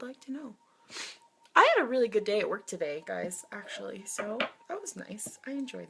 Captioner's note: sniffs